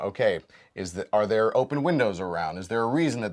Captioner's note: none